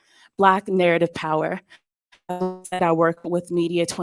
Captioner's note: distorted audio